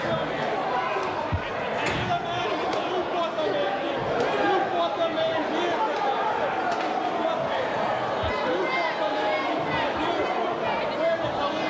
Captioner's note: crowd cheering